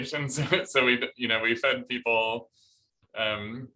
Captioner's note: laughter